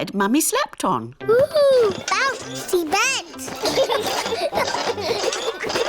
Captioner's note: children laugh